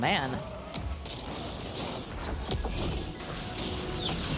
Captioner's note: game chiming, clattering